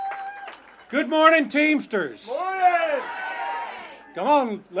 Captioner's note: applause